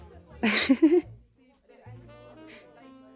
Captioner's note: giggles, trying to relieve some of the tension